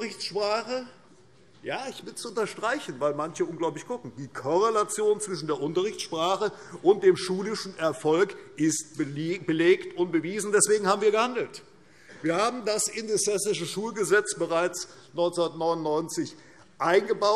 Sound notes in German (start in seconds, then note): none